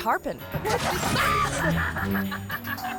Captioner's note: chuckles; screams